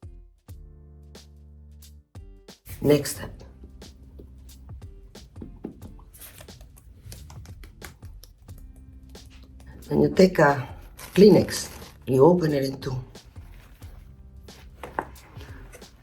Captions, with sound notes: Next step. [skin tapping] Then you take a Kleenex, you open it in two. [upbeat music]